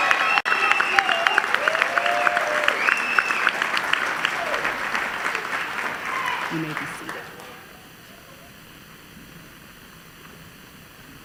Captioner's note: cheers and applause